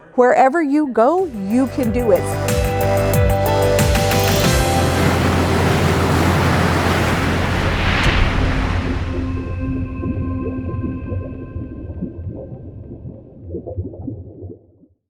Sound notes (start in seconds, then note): 2.5 bright music; 5.0 water splashing; 10.2 water burbling